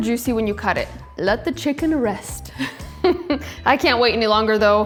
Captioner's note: laughs